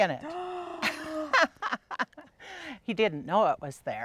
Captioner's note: gasping; laughing